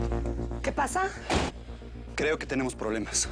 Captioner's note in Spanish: Portazo